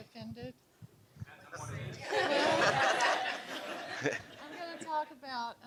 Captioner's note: laughing